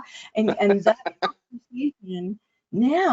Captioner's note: audio distortion